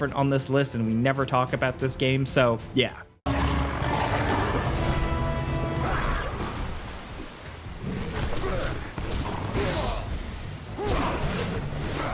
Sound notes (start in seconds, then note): 3.2 tense ominous music; 3.3 monsters snarling